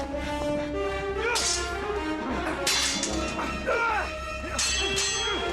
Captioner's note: swords clanking